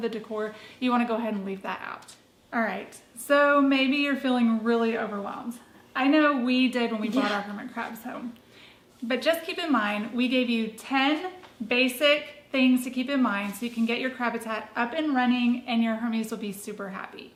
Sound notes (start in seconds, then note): 7.8 says "yeah" quietly